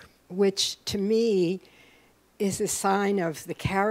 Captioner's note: none